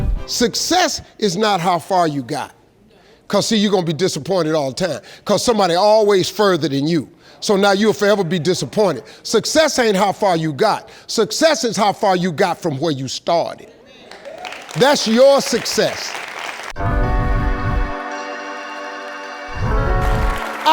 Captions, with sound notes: - Success is not how far you got. 'Cause see, you gonna be disappointed all the time 'cause somebody always further than you. So now you'll forever be disappointed. Success ain't how far you got, success is how far you got from where you started. (audience applauds) That's your success. (inspirational music)